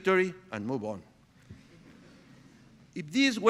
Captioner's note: audience chuckling